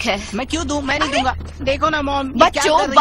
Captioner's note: kids chattering